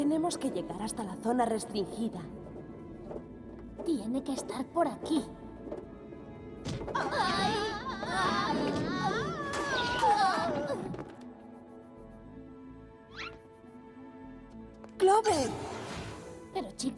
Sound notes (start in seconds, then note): 8.0 screams